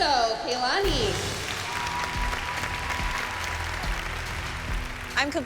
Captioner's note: cheering